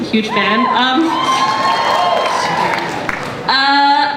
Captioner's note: cheers